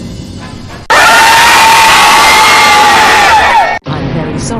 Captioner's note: all troublemakers screaming